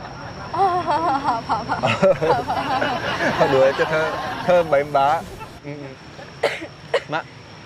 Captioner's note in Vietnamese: Tiếng cười